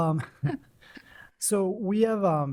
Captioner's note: laughter